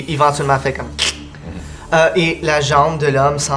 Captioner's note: crack